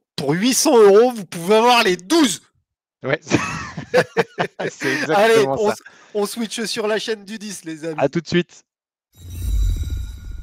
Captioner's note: laughs